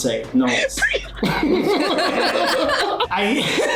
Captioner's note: laugh; laughs